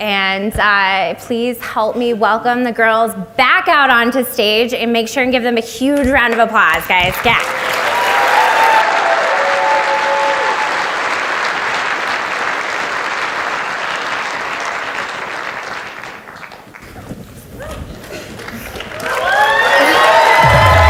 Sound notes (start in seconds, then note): 7.1 audience applauds; 18.0 audience applauds